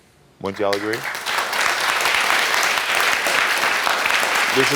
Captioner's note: audience applauding